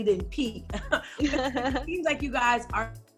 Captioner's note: Dixie laughing; laughing